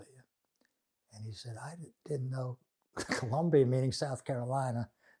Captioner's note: laughing